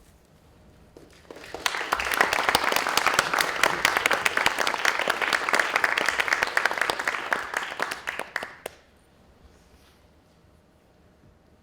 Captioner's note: applause